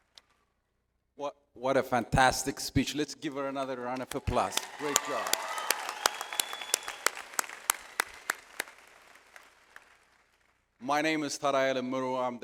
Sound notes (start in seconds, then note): 4.1 audience applauds